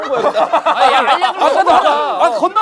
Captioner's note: laughing